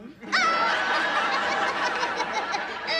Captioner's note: laughing